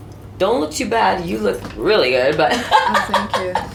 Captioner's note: laugh